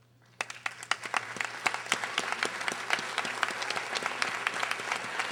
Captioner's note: audience applauding